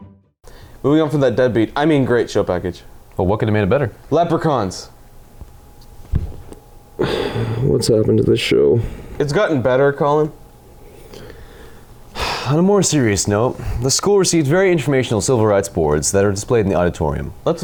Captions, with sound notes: Moving on from that dead beat I mean great show package What could have made it better Leprechauns!!! (Thunk!) Whats happened to this show Its gotten better collin Exhales* On a more serious note the school received very informational civil rights boards that are displayed in the auditorium